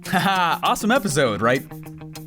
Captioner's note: laughs